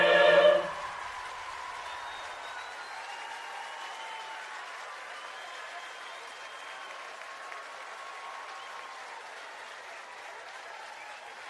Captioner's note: cheering and Applause